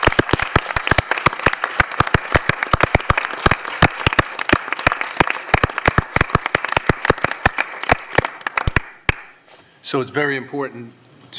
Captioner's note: applause